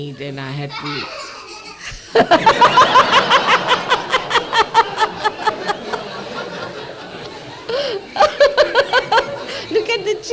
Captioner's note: Laugh explosion from the children and Shri Mataji